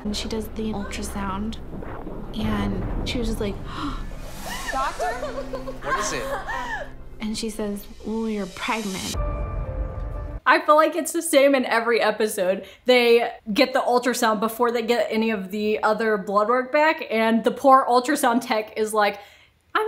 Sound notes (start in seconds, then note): 4.4 woman crying